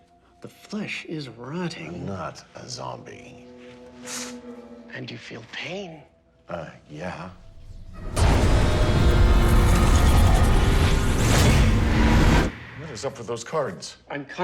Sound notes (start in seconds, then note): 3.7 winces; 7.7 frantic tones